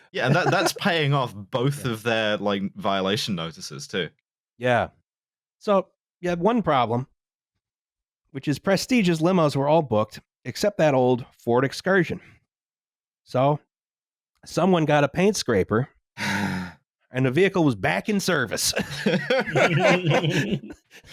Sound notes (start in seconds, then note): 16.2 sighs resignedly; 18.6 laughter